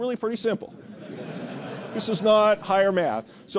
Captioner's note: laugh